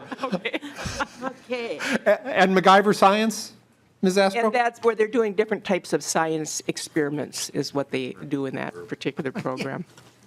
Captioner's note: laughing